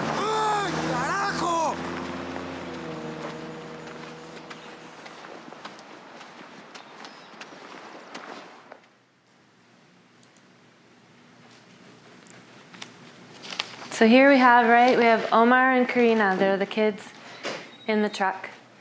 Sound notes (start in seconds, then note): 4.3 yelling in Spanish